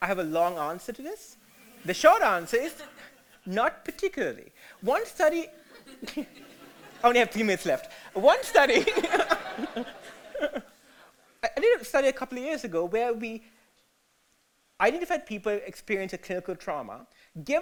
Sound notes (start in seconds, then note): 2.6 audience laughter; 5.6 audience and speaker laughter